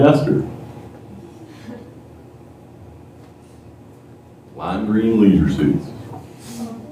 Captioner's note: laughter